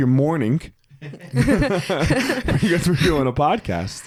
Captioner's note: group laugh